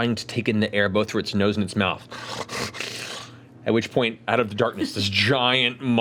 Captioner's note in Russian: рычит